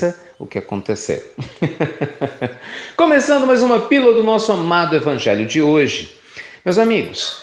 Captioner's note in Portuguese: Risos